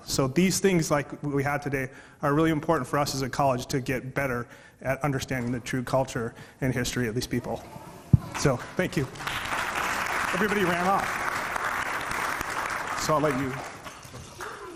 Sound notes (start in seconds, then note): 8.2 audience clapping